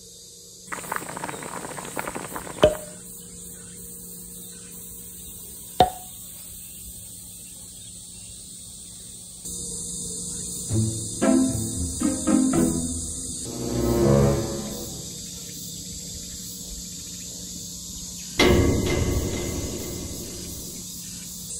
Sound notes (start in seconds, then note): 0.7 boiling Boiling